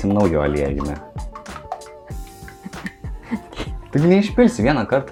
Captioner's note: laughing in Lithuanian